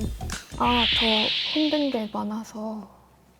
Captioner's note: gen Z-style empathy sound effect